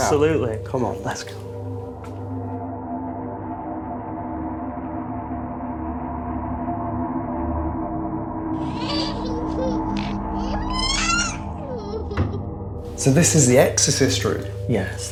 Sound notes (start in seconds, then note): 3.6 tense music; 8.5 eerie laughing